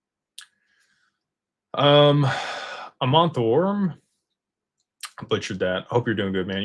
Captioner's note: sighs and gasps